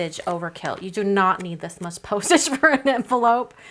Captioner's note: chuckles